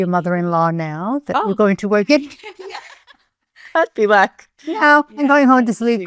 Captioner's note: chuckling